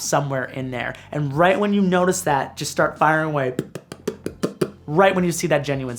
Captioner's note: popping